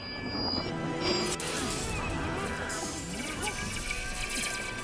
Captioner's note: both groaning